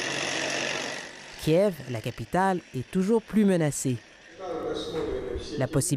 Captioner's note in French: vrombissement